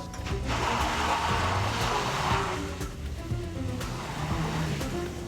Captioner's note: tires screeching; tense music continues